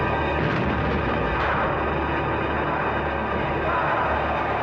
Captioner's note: explosions; dramatic music